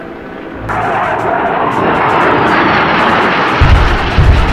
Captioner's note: jet engine roaring